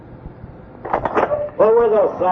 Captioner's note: tape breaks